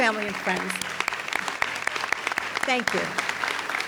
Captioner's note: audience applauds